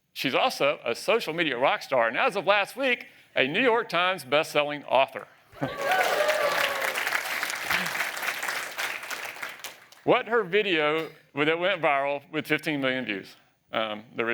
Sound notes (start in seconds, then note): 5.6 applause